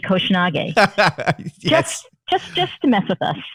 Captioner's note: laughter